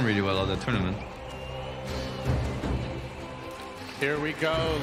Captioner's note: crowd cheering